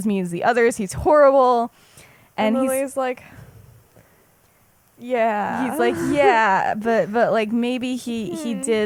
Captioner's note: laughs